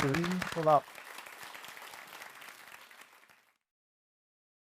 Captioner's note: audience applauds